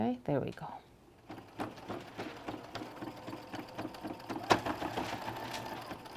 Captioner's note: sewing machine soothes